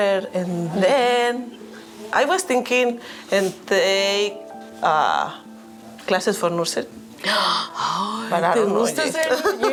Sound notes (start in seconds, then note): 7.2 gasping; 8.7 speaking in Spanish